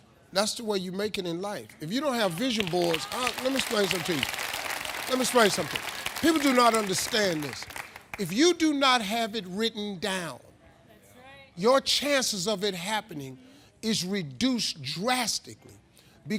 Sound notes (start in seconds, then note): 2.1 audience applauding